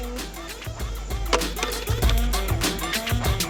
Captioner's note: cup hitting the ground